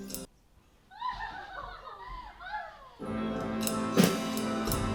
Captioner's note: girlish laughter